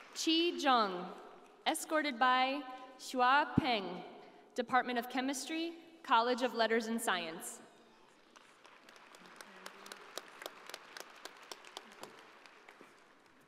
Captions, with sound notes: - Chi Jong, escorted by Xiaohua Peng, department of chemistry, College of Letters and Science. (audience applauding)